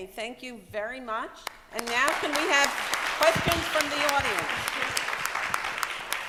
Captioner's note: applause